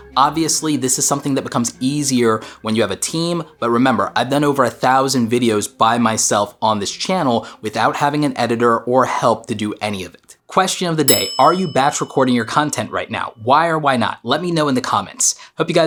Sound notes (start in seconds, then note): 11.0 bell dinging